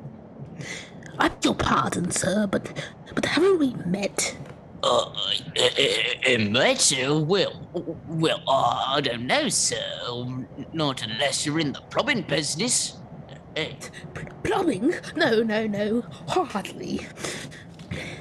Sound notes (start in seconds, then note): 4.4 working class accent